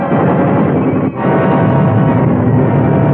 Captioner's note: guns firing